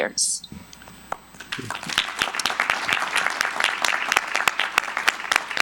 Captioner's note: audience applauding